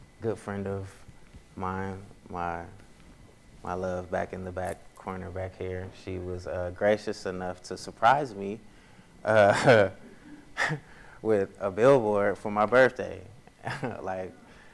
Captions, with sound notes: Good friend of mine, my love back in the back corner back here, she was gracious enough to surprise me (laughs) with a billboard for my birthday, like.